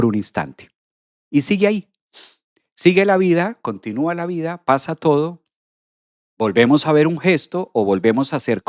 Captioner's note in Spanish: resoplido